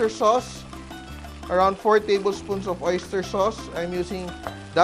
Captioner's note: sizzle